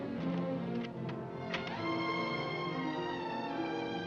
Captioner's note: door unlocking; romantic music